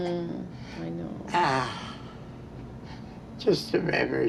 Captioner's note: exhales